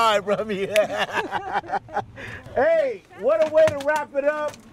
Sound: laughing

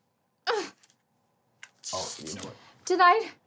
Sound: straining

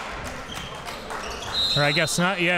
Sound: whistle blows

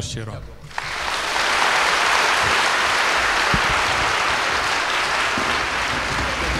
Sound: applause to end

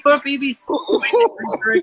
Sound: crackly laughter

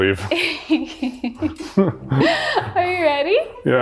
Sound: laughing

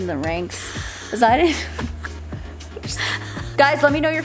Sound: laughter

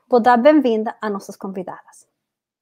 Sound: speaks portuguese

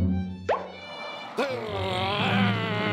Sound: growling; frightened gasp

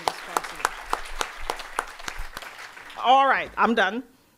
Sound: audience applauding

